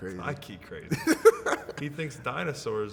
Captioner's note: laughing